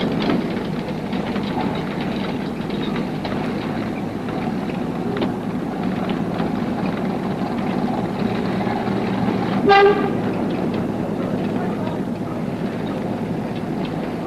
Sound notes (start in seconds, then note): 9.6 horn